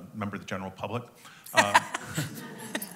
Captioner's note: chuckling